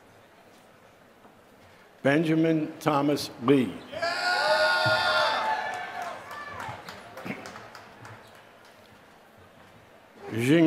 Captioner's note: applause